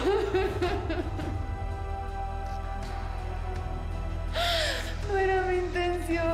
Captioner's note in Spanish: Sollozos